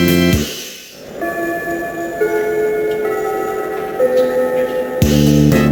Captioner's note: ding-dong, ding-dong